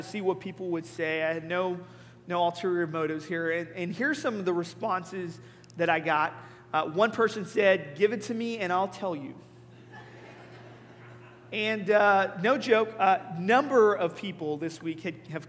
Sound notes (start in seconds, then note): 9.8 congregation laughing